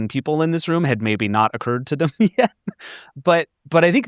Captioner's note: chuckles